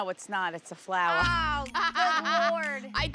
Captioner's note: laughing